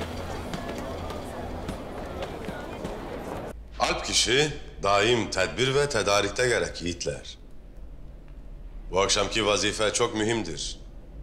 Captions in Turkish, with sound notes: (Sokak ortam sesi) Alp kişi, daim tedbir ve tedarikte gerek yiğitler. Bu akşamki vazife çok mühimdir.